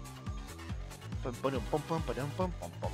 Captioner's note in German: summt Musik